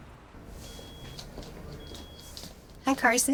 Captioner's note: feet shuffling